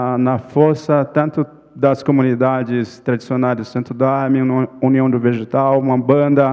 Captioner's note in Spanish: ponente habla en portugués